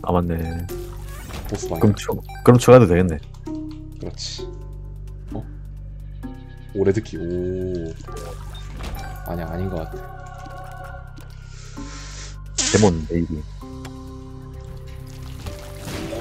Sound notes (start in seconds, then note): 12.5 farts